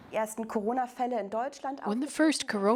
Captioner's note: woman speaking German